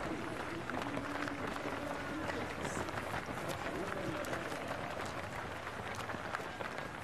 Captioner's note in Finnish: Aplodeja